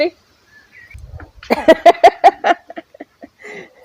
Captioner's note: laughs